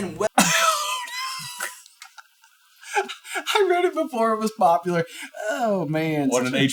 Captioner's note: wheezing